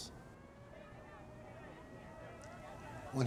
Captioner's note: distant sirens, crowd